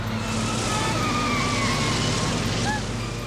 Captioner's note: tires squeal; Alexander gasps